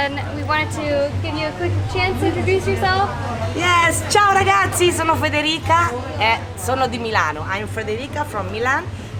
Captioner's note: speaking Italian